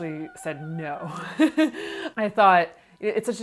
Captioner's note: laughs